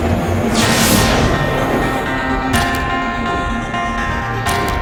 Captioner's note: lightning cracks